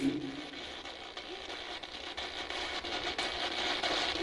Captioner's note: static buzzing